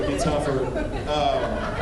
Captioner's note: laughs